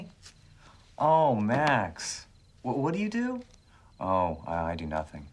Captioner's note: lower voice; normal voice